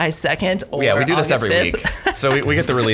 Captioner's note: laughing